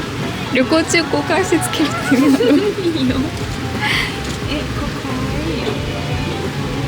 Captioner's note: laughs